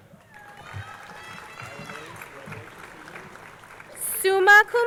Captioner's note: crowd cheering